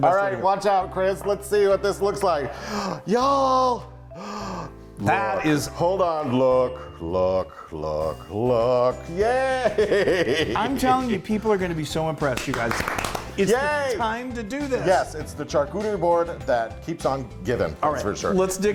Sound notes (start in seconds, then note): 4.1 gasps; 12.2 they both clap